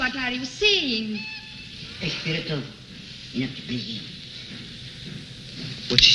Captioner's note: speaking in foreign language